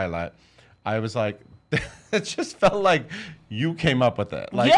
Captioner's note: laughs